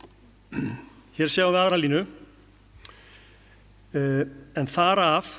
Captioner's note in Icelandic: ræskir sig